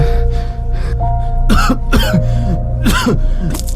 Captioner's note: coughs